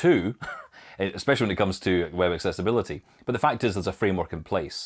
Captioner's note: chuckles